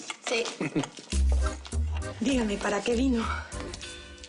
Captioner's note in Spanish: Ríe